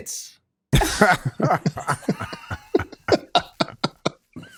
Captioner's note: all laughing